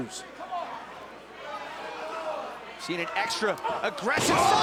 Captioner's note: crowd chatter